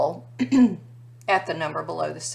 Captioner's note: instructor clearing throat